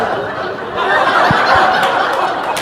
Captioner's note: laughter